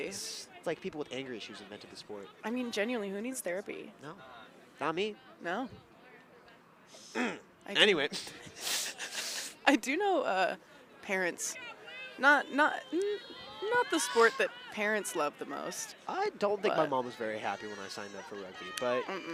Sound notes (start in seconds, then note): 8.2 chuckles